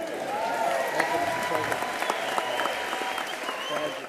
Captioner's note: applause